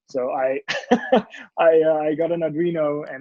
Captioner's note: laughs